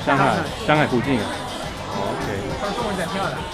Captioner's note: mandarin